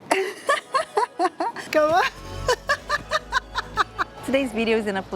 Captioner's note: laughs